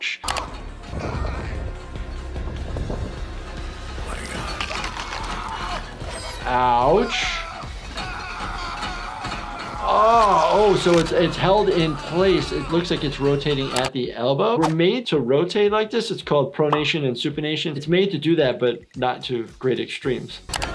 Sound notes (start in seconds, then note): 0.3 intense instrumental music; 4.9 person screaming